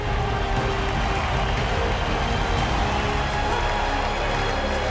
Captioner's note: crowd cheering